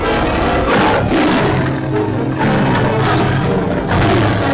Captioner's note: tiger roars